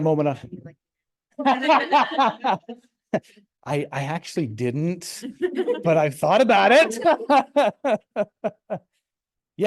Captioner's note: laughs